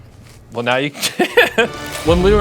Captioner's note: laughing